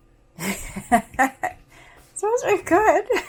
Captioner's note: laughs